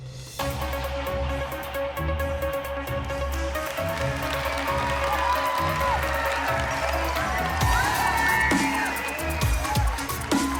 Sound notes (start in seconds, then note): 3.2 applause; 3.2 whooping